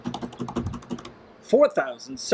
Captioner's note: hands drumming